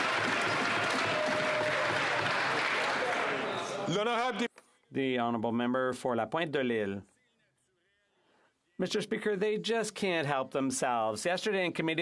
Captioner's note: some Applause